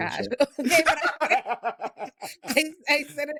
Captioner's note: laughing